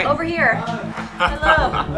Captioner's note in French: rire